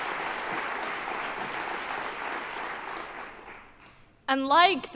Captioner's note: applause